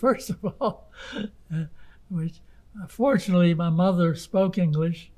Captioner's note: laughing